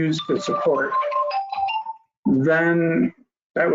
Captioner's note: phone ringing